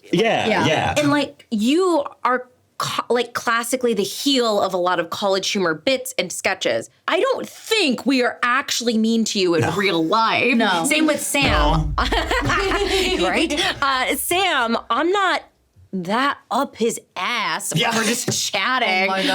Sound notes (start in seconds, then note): 10.0 laughing; 11.5 everyone laughing